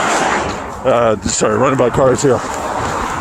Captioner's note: car traffic